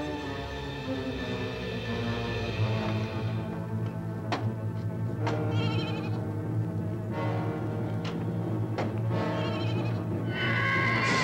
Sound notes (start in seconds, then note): 6.7 bleating